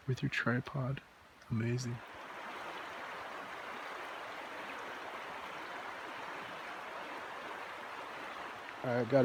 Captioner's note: sound of the River